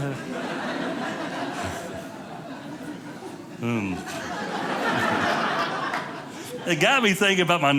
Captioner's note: audience laughing